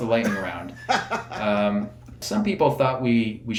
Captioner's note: laughing